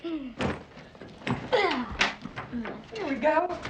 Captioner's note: Huck groaning